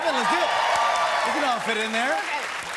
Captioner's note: cheers and applause